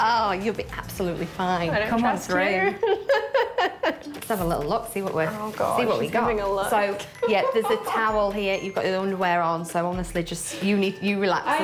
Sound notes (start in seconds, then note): 2.8 laughs